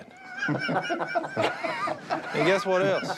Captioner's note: laughter